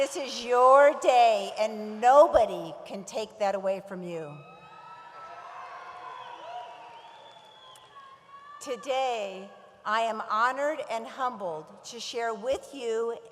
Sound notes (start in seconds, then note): 4.7 audience cheers